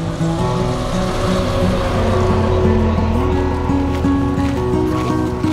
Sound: sound of guided bus passing

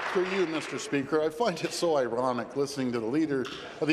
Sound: applause

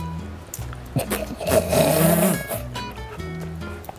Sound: laughs

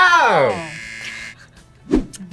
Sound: buzzer

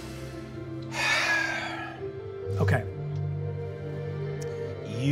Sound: sighing

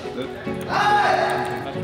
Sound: Mongolz cheering

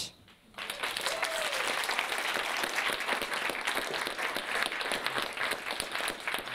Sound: audience applauding and cheering

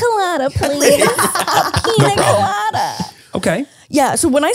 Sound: everyone laughs

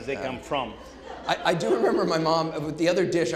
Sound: audience laughing

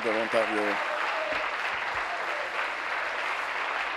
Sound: applause

